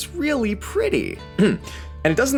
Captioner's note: cough